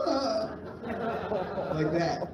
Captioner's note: laughter